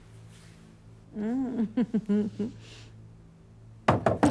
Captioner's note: laughs